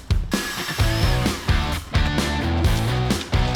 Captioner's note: upbeat music; drilling; upbeat music